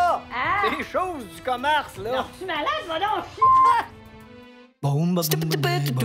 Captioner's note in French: bip!